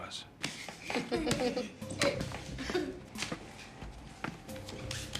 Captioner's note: kids laughing